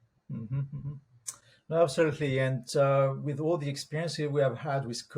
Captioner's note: hums